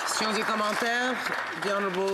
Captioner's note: some applause